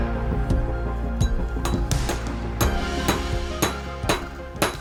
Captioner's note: metal clinking